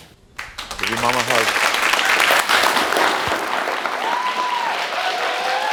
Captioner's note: audience cheering